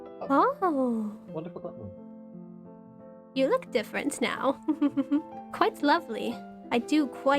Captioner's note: giggles